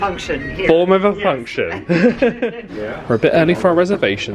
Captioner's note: laughing